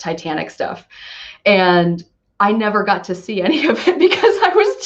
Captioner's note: laughs